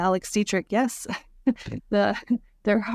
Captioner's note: laughs